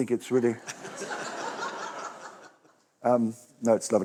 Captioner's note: laughter